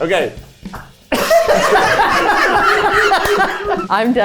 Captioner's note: everyone laughs happily